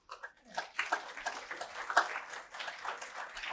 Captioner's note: applause